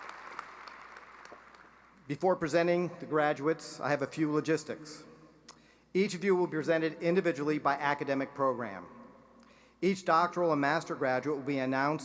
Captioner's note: applause